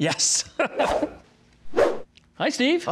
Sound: laughing

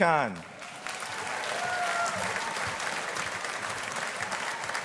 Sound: audience applauding

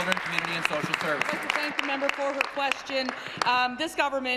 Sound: applause

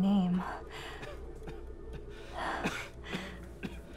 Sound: Carlos coughing

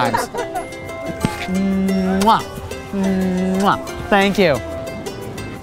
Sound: exaggerated kissing

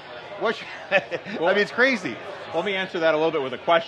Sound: laughs

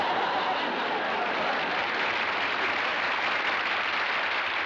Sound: applause

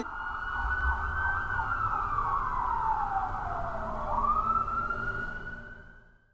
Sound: police car sirens

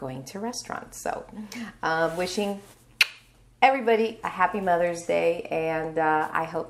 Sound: lips smacking

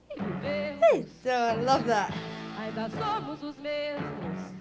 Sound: vocalizes

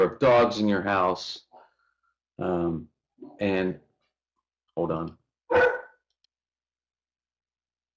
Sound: barking

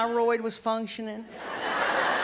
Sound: laughter

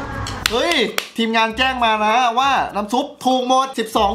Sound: applauding

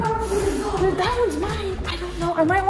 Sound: children talking indistinctly

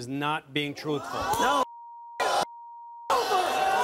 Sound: audience gasping; beeping

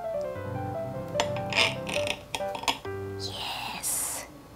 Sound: knife scraping

